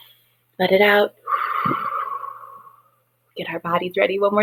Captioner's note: exhales heavily